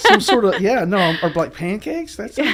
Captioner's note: laughing